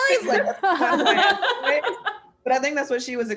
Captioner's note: laughter